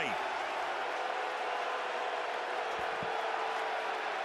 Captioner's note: crowd cheering